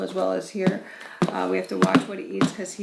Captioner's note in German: stampfende Füße